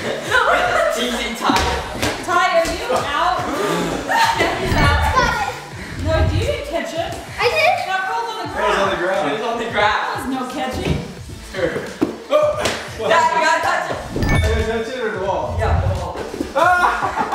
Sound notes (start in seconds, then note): 0.0 laughter; 3.6 gasping; 16.5 laughter